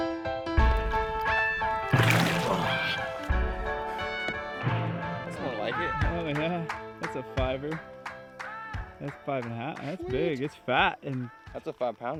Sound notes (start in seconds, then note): 2.7 grunts